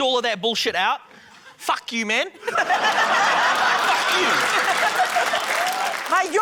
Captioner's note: laughter, applause